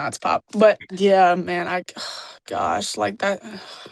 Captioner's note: sighs